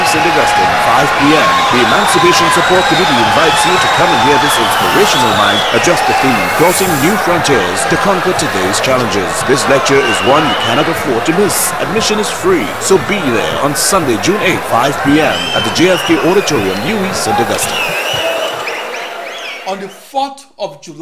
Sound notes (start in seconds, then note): 18.1 wild applause and cheering for 22 seconds